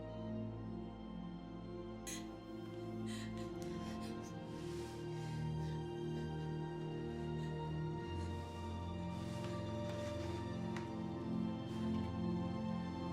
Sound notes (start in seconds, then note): 2.0 sobbing